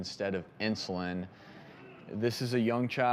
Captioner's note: audience chattering